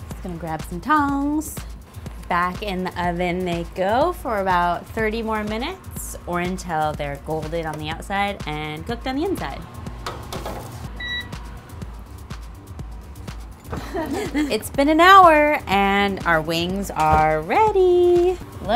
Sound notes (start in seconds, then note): 10.8 upbeat music; 10.9 beeping